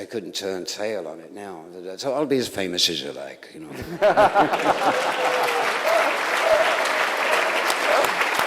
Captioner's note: applause